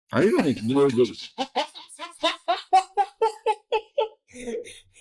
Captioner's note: laughter